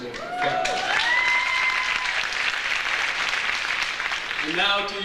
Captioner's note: audience applauds